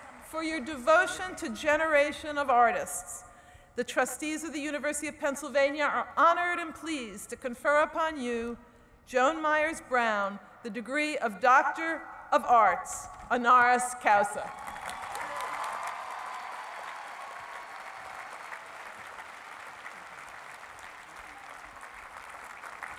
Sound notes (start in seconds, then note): 14.5 cheering and applause; 18.1 speech drowned out by applause